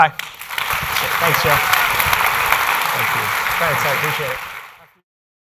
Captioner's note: applause